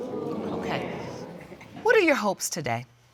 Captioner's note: audience exclaiming